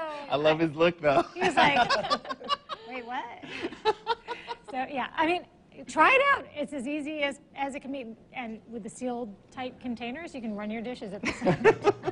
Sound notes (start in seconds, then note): 1.4 laughing